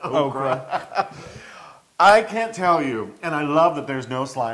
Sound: laugh

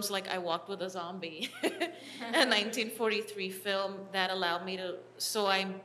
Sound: chuckle

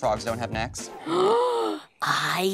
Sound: gasps

